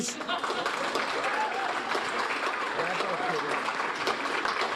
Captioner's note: audience applauding